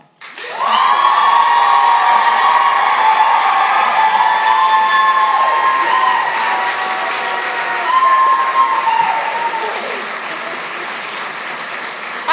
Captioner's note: applause